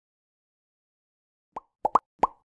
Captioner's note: bubbles Popping